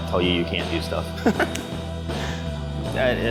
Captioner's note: laughs